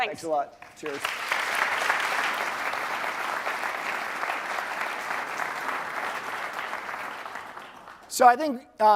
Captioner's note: applause